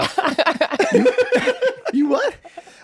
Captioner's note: group laughs